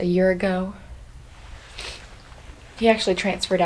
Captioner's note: sniffs